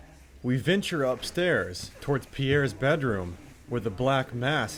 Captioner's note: voiceover